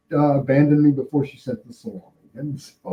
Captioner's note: laughing